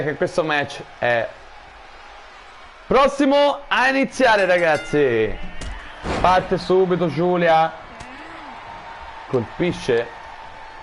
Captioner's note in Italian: Applauso